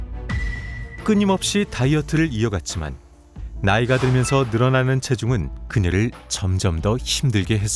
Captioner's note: voiceover